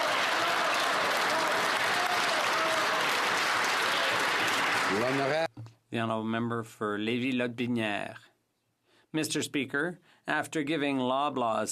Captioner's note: some Applause